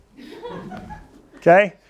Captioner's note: laughter